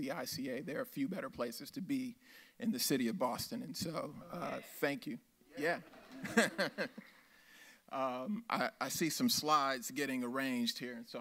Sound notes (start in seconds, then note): 5.8 laughs